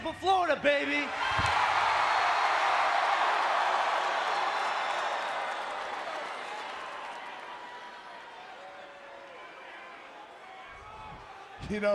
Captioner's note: applause